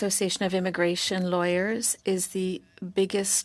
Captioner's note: speaking French